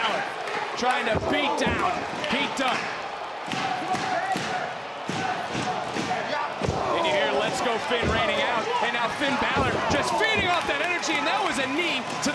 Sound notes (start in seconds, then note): 3.4 crowd cheering